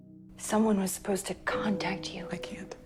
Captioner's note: voiceover